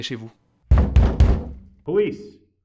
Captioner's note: knocking noise